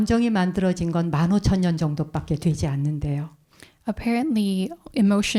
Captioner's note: speaking in Korean